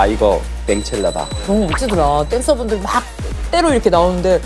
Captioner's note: sip